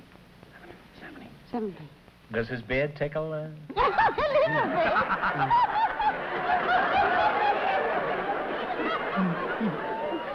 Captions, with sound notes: Does his beard tickle? [LAUGHTER]